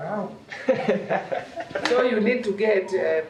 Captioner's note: laughing